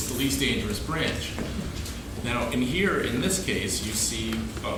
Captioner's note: laughing